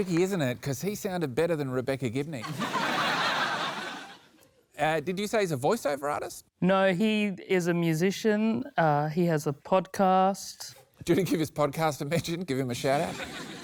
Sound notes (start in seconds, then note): 2.4 laughter